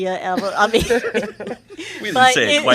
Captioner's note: laughter